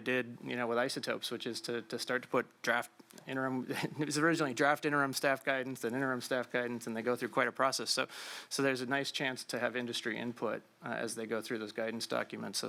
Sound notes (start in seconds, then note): 3.7 laughs